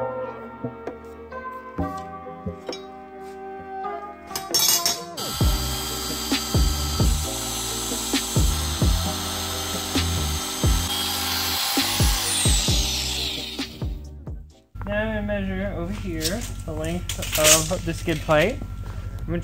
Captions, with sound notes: *machine noise* Then I'm gonna measure over here the length of the skid plate.